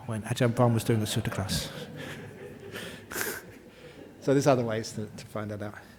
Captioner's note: laughter